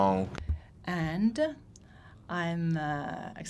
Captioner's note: speaking in French